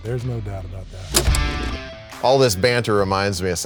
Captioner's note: film clicking; upbeat rock music